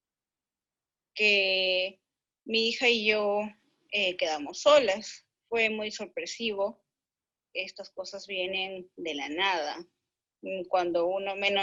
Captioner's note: speaking in Spanish language